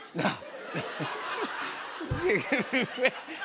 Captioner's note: laughter